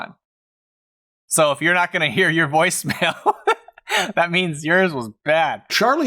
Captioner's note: laughs